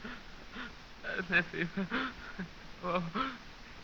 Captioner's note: muttering